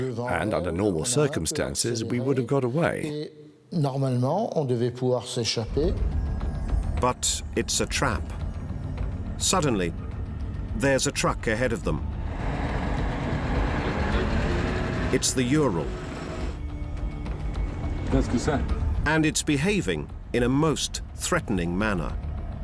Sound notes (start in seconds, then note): 17.6 driver speaks French